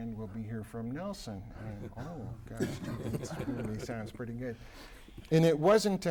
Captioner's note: laughter